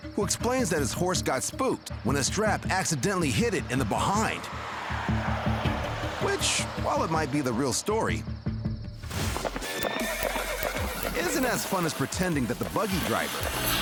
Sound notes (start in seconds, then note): 9.6 horse neighing